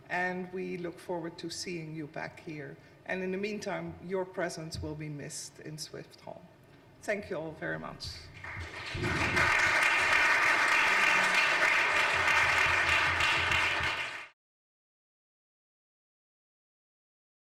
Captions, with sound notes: And we look forward to seeing you back here. And in the meantime, your presence will be missed in Swift Hall. Thank you all very much. (audience applauding)